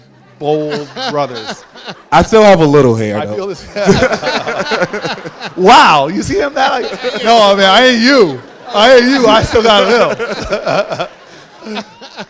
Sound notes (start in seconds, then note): 3.3 laughter